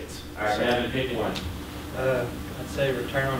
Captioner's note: voiceover